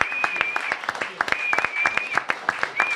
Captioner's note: applause